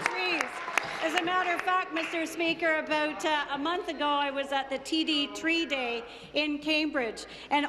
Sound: applause

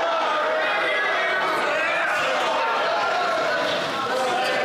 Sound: some Applause

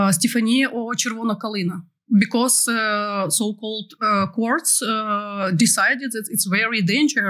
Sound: non-english

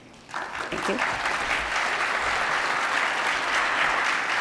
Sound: attendees applauding

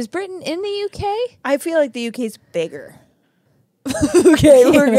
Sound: laugh

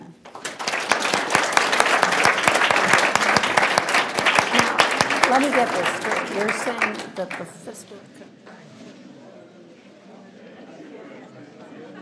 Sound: applause and inaudible background discussions

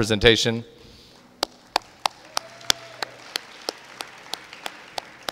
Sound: audience applauding

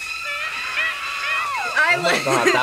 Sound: woman yelling

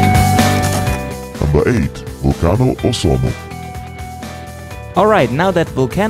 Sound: male Voice

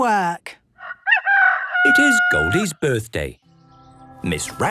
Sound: rooster crowing

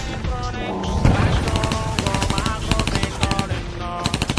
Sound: guns firing

